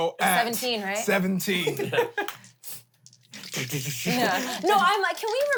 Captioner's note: laughs